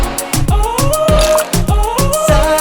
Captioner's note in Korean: 첨벙